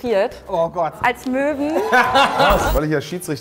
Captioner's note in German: Lachen